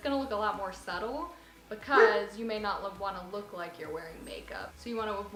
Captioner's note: dog bark